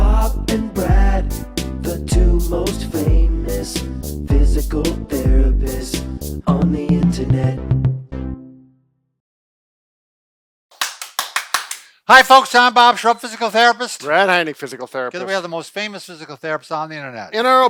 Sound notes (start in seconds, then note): 10.7 clapping